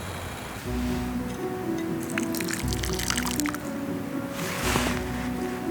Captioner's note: melancholic music; sound of pouring water